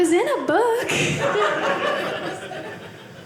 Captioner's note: audience laughing